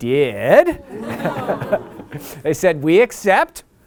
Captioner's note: laughter